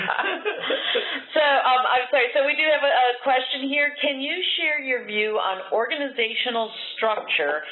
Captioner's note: laughter